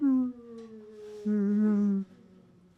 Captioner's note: disappointed sounds